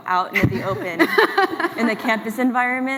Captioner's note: laughs